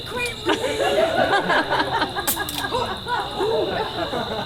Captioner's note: audience laughs